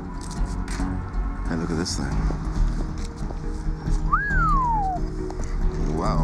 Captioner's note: wolf whistles